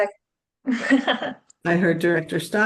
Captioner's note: laughs